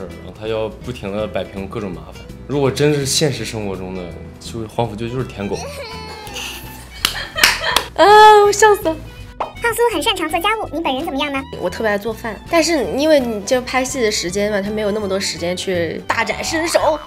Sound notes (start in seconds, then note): 5.6 hahahahahaha